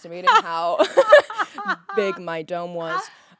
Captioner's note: Courtney laughing